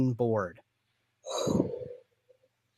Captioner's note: exhales